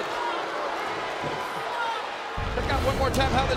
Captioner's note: audience cheering